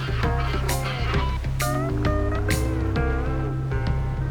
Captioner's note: tugboat horn